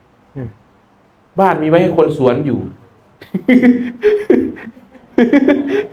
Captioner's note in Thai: เสียงหัวเราะ